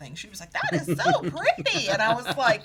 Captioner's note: laughing